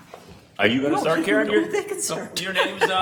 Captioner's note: laughs